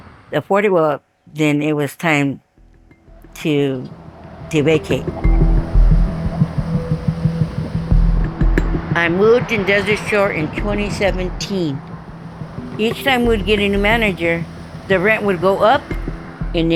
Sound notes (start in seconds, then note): 5.7 cars wooshing